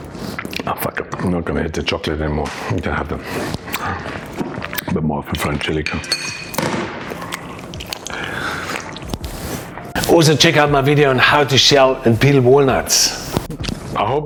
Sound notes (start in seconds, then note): 5.8 bottle clinking and thumping